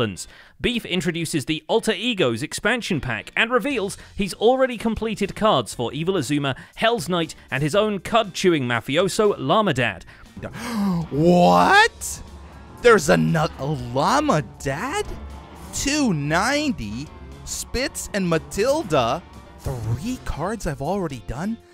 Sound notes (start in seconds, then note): 10.1 gasps